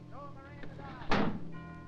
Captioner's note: window slamming; clock chiming